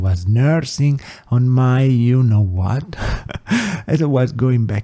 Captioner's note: laughs